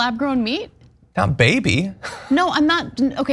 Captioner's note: laugh